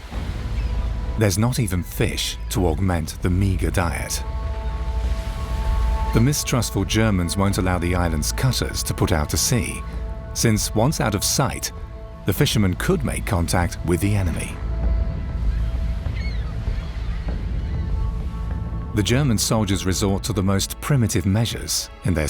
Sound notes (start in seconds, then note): 5.1 waves crashing; 15.9 intense music